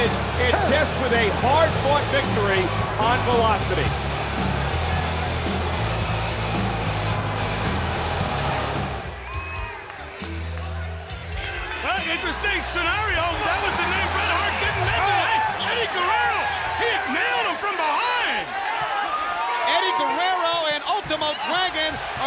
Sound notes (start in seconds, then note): 5.2 crowd cheering; 5.2 rock music; 13.5 overlapping chatter